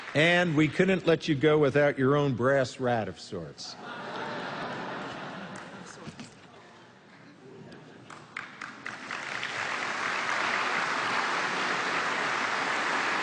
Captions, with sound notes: And we couldn't let you go without your own brass rat of sorts. [LAUGHTER] [APPLAUSE]